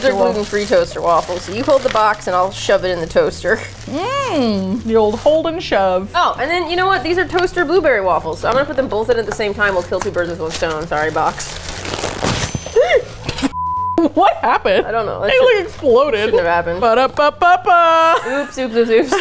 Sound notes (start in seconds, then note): 12.4 gasps; 12.7 laughs; 16.6 singing to tune of jingle